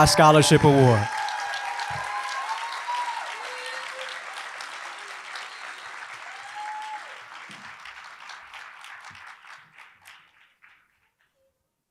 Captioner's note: applause